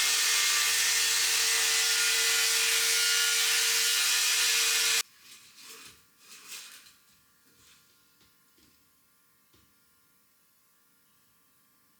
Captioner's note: saw buzzing